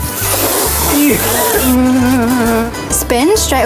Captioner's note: laughs; moans